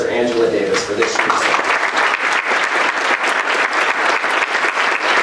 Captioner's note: applause